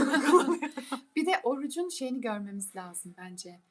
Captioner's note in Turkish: kahkaha